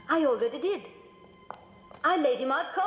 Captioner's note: footsteps